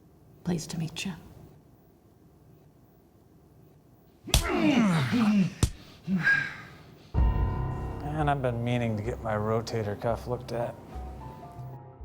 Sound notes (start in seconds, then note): 4.3 punching, groaning; 7.1 suspenseful music